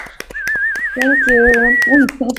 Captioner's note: applause; whistle